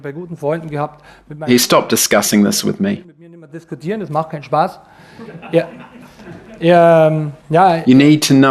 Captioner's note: audience laughs